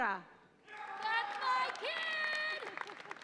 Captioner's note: audience applauds and cheers